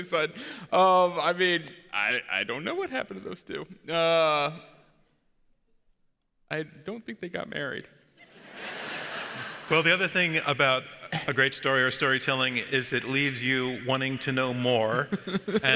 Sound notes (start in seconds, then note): 8.2 audience laughs